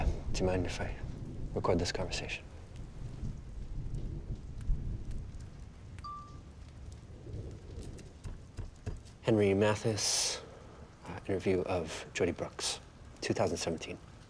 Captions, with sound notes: - Do you mind if I record this conversation? (phone dings) Henry Mathis, interview of Jody Brooks, 2017.